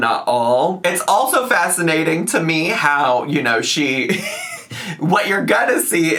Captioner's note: laughs